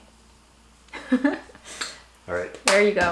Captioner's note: chuckles